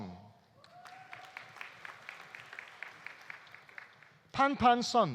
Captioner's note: audience cheering; audience applauding